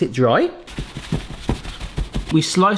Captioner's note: paper towel rustling